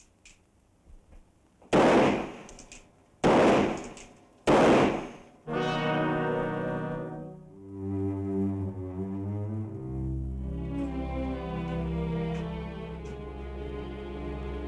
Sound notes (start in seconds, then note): 1.7 gun firing; 5.4 dramatic orchestral music